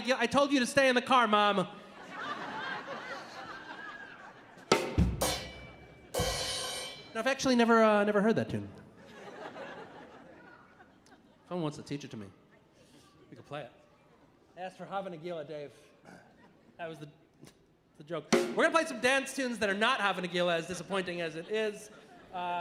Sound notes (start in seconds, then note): 1.8 audience laughing; 4.7 drum chord; 8.9 audience laughing